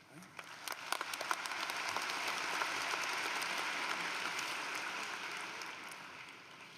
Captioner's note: applause